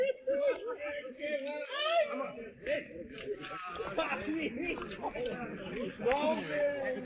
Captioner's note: men shouting; men laughing